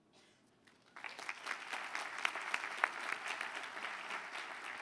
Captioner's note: applause